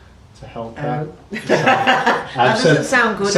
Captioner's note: laughs